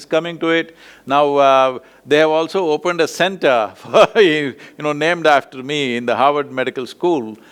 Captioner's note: laughs